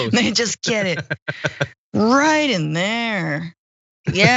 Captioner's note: laugh